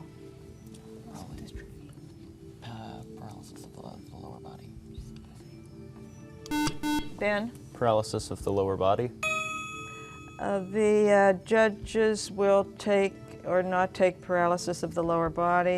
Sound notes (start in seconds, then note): 6.4 beeping; 9.2 ding